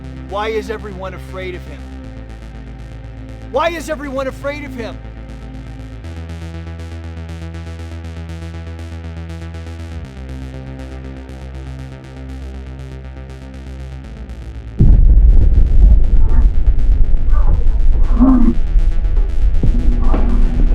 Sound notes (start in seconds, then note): 6.7 tense synth music continues; 14.8 muffled thumps; 17.4 muffled grunting